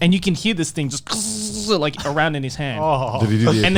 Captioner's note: imitating buzzing wings